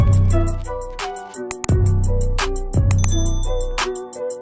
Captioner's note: clicking; dinging